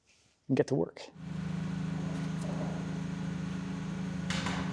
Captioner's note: machinery humming